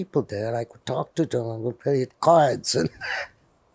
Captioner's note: laughing